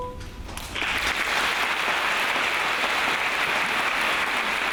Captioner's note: audience applauds